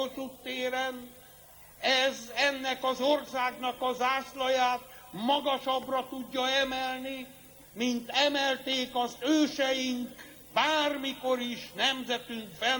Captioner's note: crowd